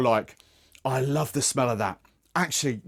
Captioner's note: sniffs